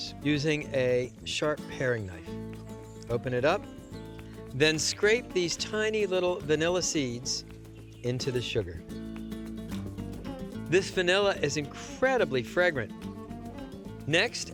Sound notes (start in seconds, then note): none